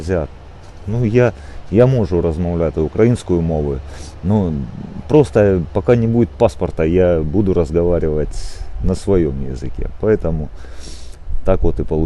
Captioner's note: in Ukrainian; back in Russian